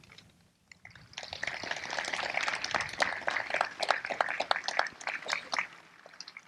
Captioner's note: applause